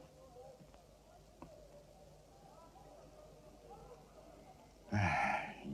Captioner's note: indistinct chattering